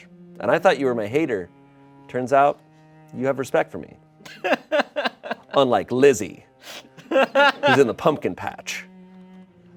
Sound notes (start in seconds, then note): 4.3 crew laughs